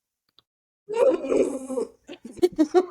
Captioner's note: walrus grunts